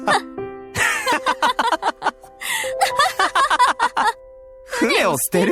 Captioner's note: chuckles; laughs